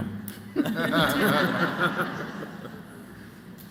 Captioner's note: laughter